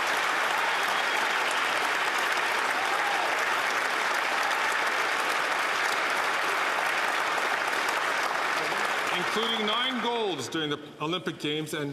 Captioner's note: cheers & Applause